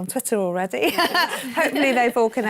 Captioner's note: laughs